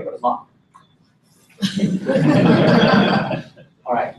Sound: laughter

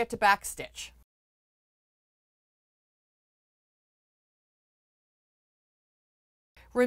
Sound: no Sound Present

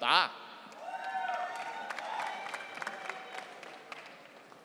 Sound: audience cheering

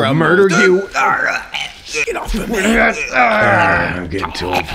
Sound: gags; ISFP grunting; groans

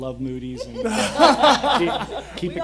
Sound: laughing

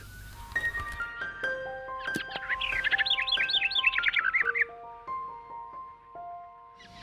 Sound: gentle ambient music; birds chirping

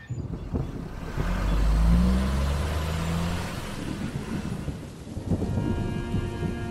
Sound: truck rumbling; thunder rumbling

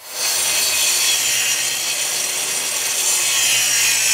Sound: cutting wood

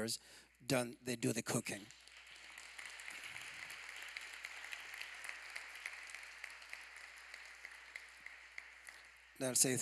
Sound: applause

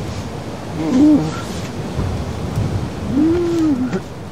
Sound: roaring, raging waterfall

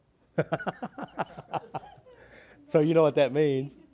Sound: laughs

